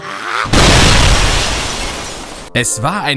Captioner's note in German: Explosion